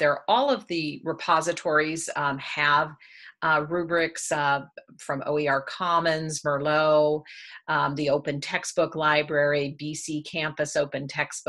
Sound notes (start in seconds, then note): none